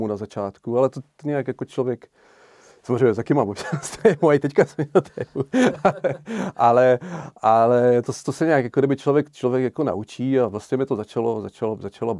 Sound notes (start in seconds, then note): 4.6 laugh